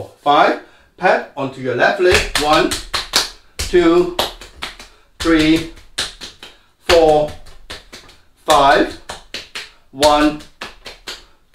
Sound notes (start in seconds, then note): 2.1 slapping; 9.9 slapping